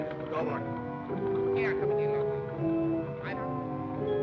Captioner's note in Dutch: man #2 spreekt Duits